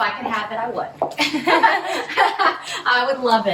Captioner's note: laughing